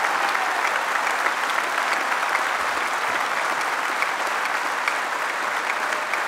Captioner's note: applause